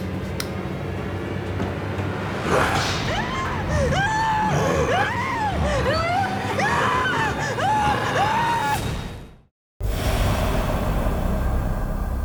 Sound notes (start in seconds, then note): 2.4 Eli growls; 2.8 Jennifer screams